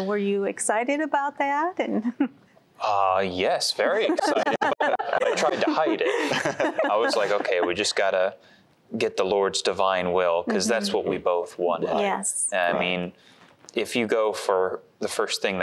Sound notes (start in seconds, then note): 2.0 giggle; 3.9 laughter